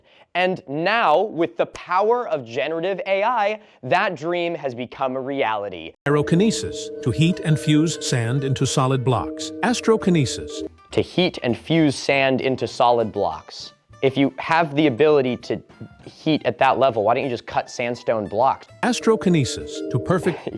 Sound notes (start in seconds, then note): 6.0 TikTok AI narrator